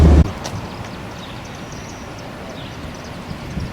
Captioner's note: birds chirping